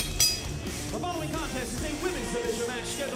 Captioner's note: bell ringing